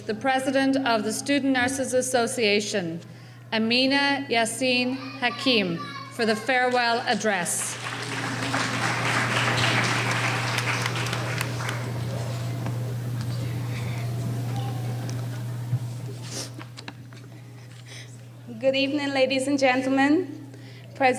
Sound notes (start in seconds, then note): 7.5 applauding